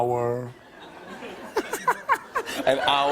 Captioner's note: laughter